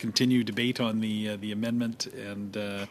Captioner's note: speaking French